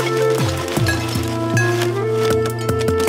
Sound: bottles clanking

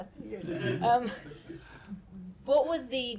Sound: laughter

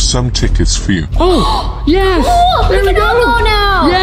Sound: gasps

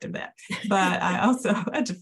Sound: panelist laughs

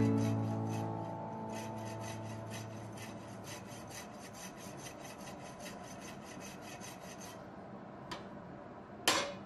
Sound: sawing

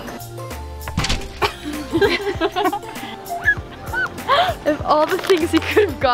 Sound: gentle music; laughing

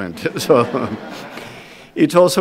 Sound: audience laughs

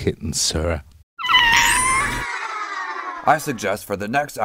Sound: meowing

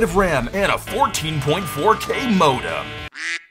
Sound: modem handshake blaring; duck quacks

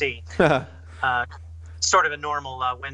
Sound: laughs

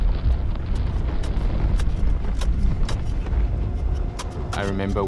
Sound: wind blowing; shovel thumping

